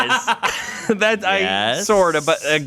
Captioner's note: laughs